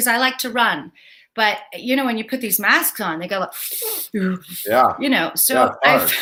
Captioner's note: gasps